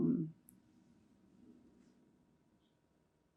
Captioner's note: pauses 8 seconds